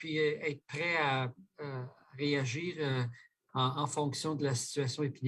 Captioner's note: speaking French